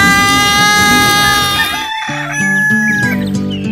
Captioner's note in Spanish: Grito; Sonido de cacareo; Sonido de pajaritos y ronquidos